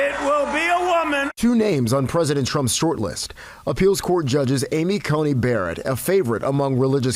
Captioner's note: cheering